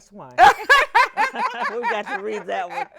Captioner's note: all laughing